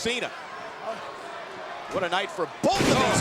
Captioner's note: audience chattering